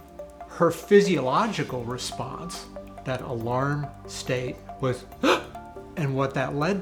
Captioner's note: gasp